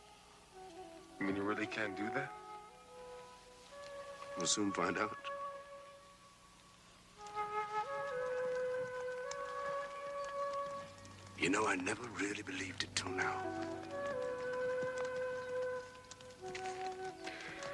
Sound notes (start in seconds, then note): 5.0 eerie music; 5.0 horses clomping; 12.9 eerie music